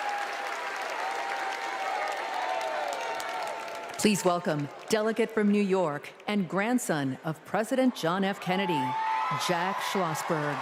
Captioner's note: applause